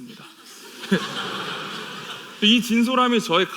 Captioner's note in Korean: 웃음